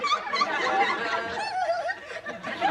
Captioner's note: giggling